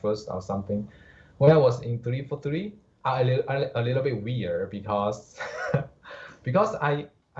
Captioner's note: chuckles